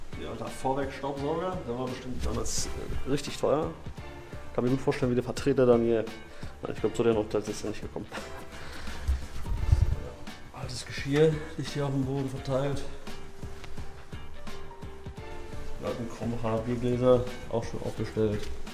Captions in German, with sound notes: Hier haben wir einen alten Vorwerk Staubsauger. Der war damals bestimmt richtig teuer. Ich kann mir gut vorstellen, wie der Vertreter dann hier ... nein, ich glaube zu den Hotels ist er nicht gekommen (leichtes gelächter) Altes Geschirr liegt hier auf dem Boden verteilt. Die alten Krombacher Biergläser, auch schon aufgestellt.